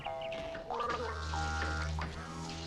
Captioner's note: Tommy gargling; adds deep foreboding music